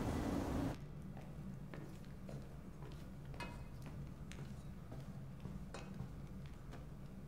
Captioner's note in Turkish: Adım Sesleri